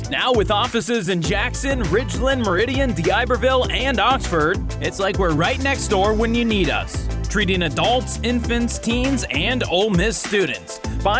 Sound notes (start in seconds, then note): none